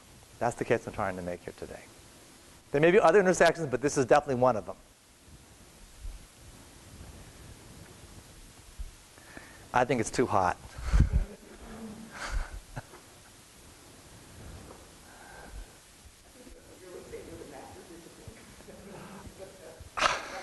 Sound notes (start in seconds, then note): 11.0 chuckles; 20.2 chuckles